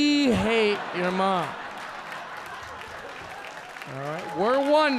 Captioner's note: audience laughing